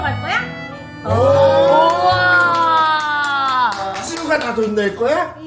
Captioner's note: cheers